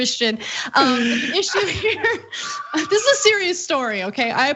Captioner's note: laugh